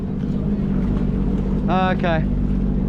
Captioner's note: resident speaking faintly